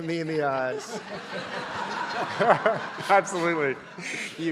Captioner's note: audience laughing